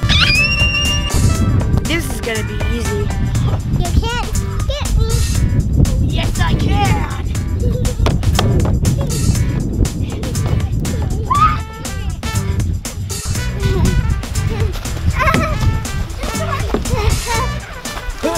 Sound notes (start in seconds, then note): 0.0 girl screams; 9.1 laughing and yelling; 11.4 upbeat music; 14.4 screaming and laughing